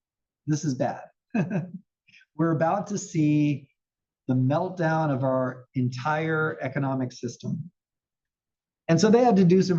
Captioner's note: laugh